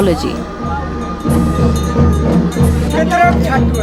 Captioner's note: bell jingling; soft drumming